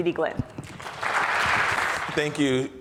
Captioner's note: audience applauds